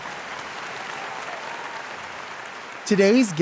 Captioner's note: audience applauds